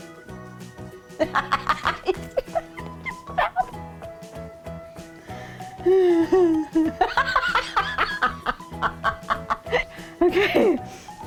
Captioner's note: laughing